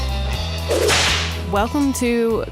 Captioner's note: whip cracking